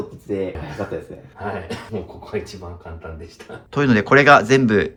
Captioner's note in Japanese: 笑い